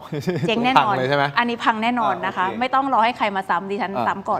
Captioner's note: laughs